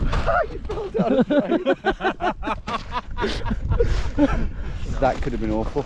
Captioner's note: men laughing